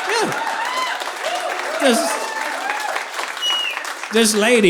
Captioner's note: audience applauding